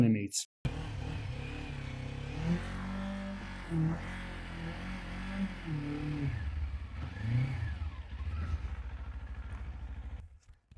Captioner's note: motorbike Revving